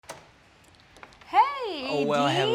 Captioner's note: door opens